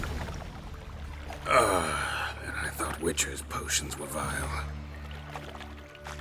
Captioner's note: disgusted groan